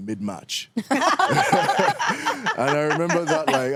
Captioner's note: all laughing